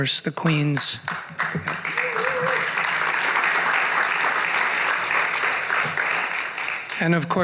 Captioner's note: applause